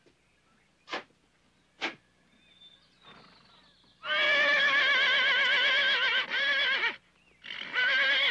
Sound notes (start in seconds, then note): 4.0 neighs